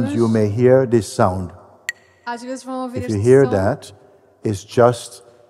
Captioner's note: clacks the sticks